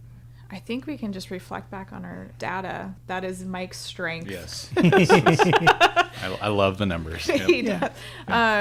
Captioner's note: both laughing